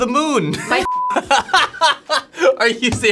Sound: beep; laughing

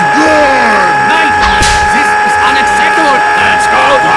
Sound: slaps

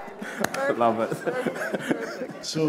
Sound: laughter

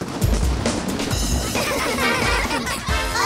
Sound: laughing

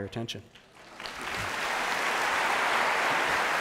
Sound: applause

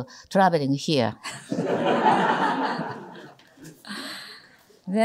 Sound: audience laughter

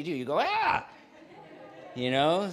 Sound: audience laughs

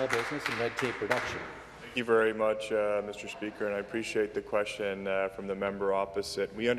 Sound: some Applause

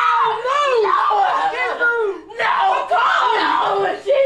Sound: bothYelling

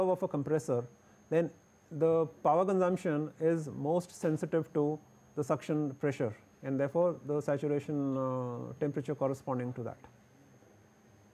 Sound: air conditioning

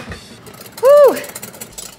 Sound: whisking eggs

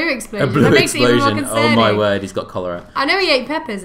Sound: laughter

